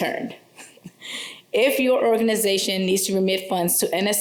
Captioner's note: laughter